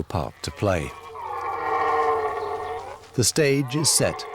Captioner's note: deer roaring